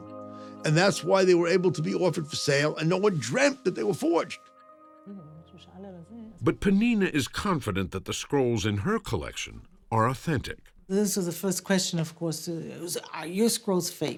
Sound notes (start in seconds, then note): 4.2 speaking Hebrew